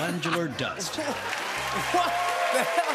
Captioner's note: cheers and applause